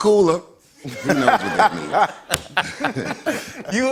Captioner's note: laughs